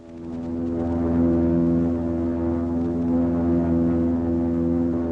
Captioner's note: plane rumbling